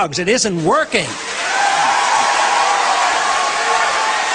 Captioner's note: cheers and applause